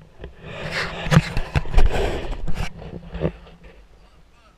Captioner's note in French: GRINCEMENT DE PENTURE DE GoPro